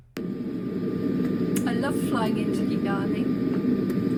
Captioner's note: aeroplane noise